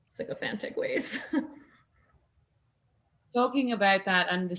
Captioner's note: Nasim laughs